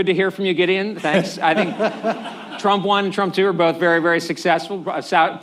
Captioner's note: laughter